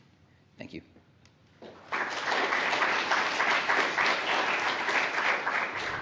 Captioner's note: applause